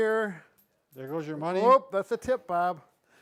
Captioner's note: change clinking